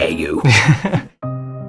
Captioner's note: sad music; laugh